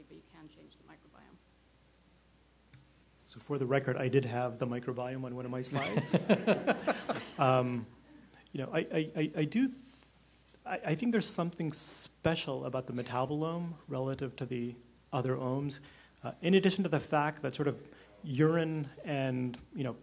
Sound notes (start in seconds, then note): 8.2 laughter